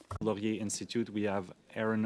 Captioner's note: speaking French